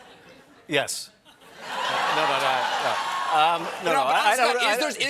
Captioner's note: laughter